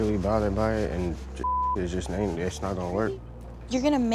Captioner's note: beep